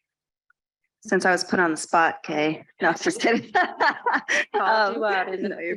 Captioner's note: laughs